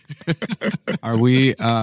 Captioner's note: laughs